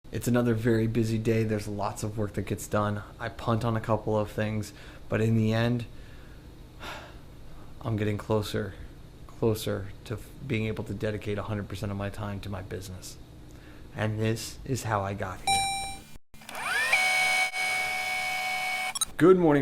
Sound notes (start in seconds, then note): 6.7 sighs; 15.4 robotic ding; 16.4 tape rewinding